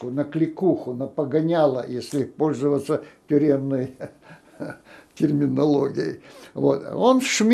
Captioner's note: laughing